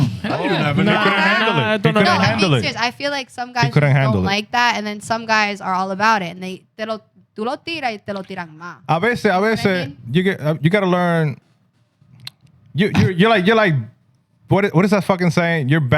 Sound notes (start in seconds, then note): 7.1 speaking Foreign Language